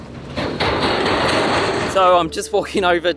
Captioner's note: clattering